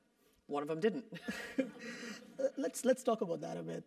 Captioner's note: laugh